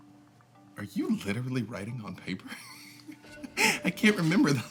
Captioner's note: chuckles